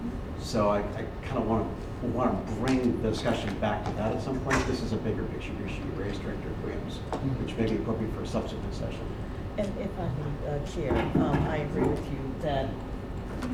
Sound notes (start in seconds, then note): none